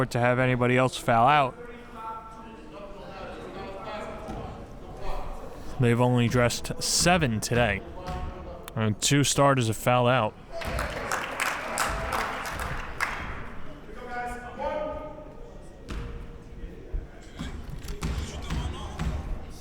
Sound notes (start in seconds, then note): 10.6 clapping